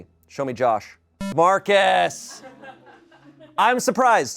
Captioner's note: electronic boop